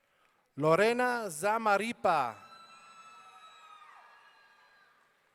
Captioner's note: audience cheering